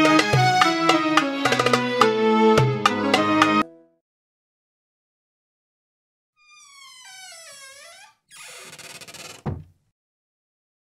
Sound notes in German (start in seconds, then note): 6.4 Türe knarzt und schließt mit Geräusch